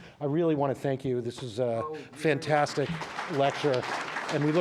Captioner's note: applause